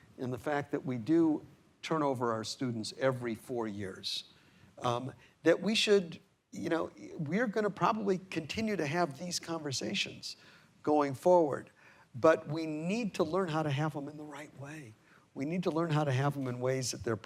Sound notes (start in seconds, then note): none